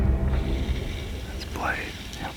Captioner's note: whispering